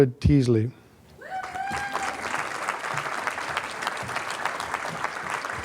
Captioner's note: applause